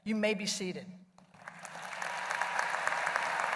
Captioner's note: applause